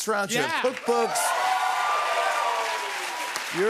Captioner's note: cheers and applause